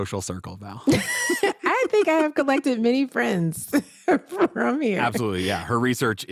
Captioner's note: laughing